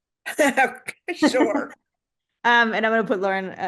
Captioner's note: chuckles